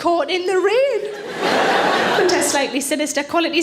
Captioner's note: audience laughing